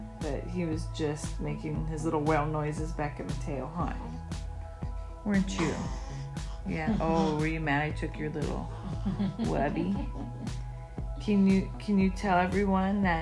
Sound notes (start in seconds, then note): 8.8 laugh